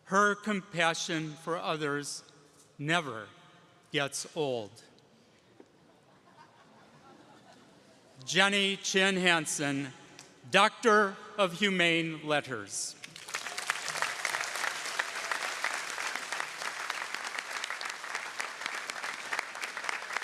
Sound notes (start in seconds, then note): 13.0 audience applauding